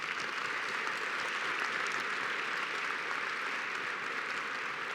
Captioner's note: applause